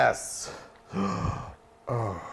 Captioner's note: gasping